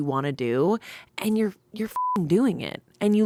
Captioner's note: beep